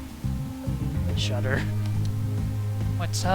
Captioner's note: shudder